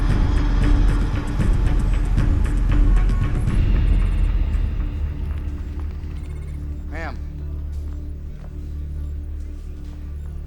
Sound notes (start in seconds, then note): 6.2 phones ringing; 7.8 tense music